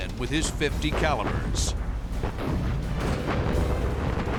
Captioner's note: explosions